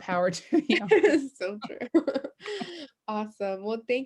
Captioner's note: laughs